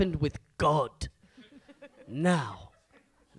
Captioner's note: audience laughs